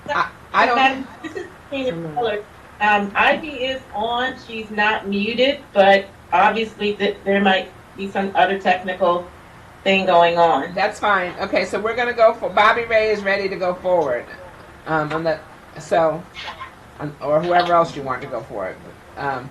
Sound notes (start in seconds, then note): 2.4 speaking faintly